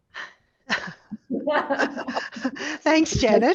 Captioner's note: presenters laughing